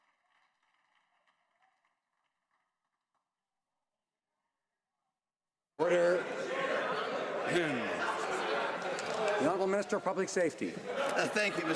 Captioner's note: some Applause